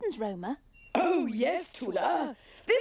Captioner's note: chuckling